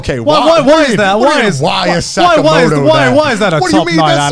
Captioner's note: both mumbling